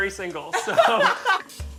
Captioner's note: laughs